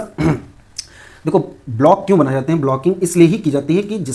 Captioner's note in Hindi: गला साफ़ करने की आवाज़